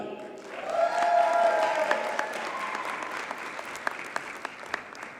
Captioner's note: audience cheers and applauds